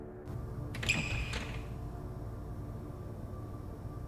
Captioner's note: door opens